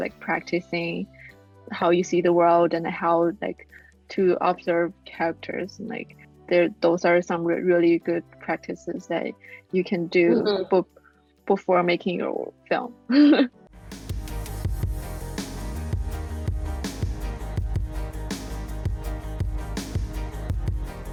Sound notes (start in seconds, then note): 13.3 chuckles; 13.8 upbeat music